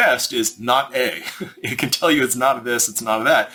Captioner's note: chuckles